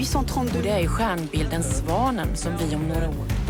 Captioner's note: reporter speaking French; reporter speaking foreign language